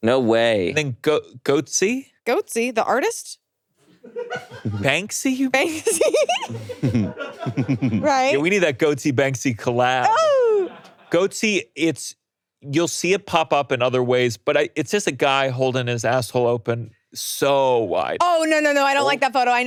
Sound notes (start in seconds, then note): 5.7 laughing; 5.7 person laughing